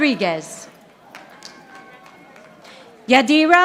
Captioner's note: audience applauding